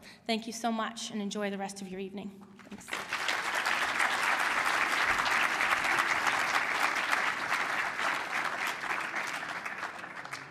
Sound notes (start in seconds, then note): 2.6 applause